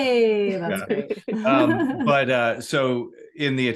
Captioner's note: laughs